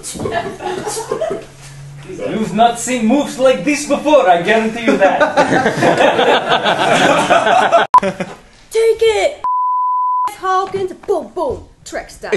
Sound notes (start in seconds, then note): 2.0 Sulu in Chekov accent; 4.8 laughter